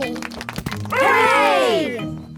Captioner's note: crowd applauding